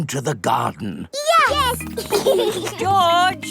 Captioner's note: giggling